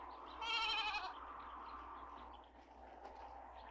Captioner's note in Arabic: نباح الماعز